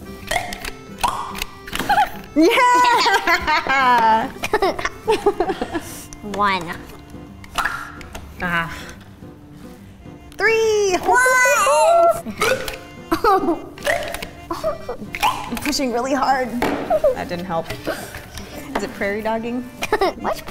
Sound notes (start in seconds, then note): 0.2 toy pops; 1.7 laughs; 7.4 toy pops; 12.4 toy pops